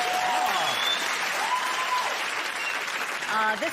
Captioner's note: cheers and applause